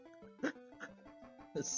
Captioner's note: laughs